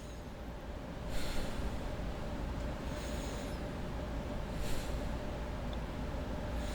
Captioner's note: the Photographer breathing